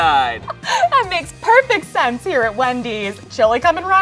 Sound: chuckles

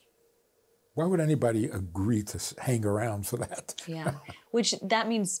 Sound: laughs

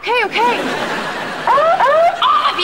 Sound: beeping

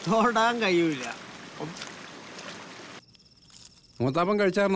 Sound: water Falls Sound

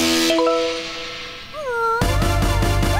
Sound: sighing; barking

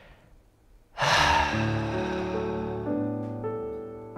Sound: sigh

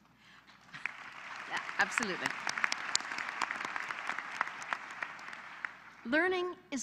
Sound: applause

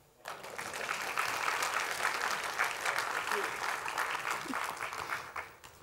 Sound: applause

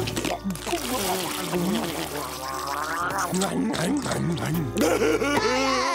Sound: scarfing

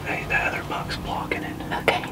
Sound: whispering

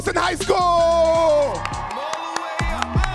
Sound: audience cheering

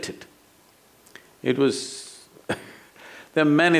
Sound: laughs

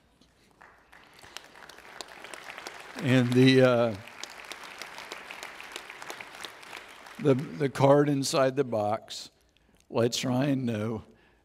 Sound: audience Applauds

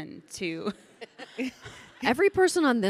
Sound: panelists chuckling

